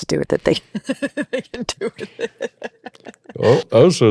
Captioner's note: laughs